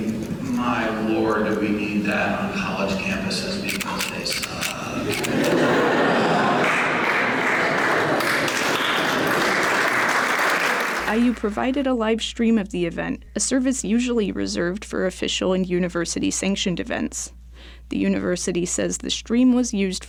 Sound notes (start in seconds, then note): 9.8 laughter; 10.1 applause